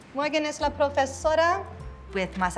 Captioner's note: speaks in Spanish language